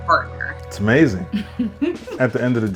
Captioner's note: chuckles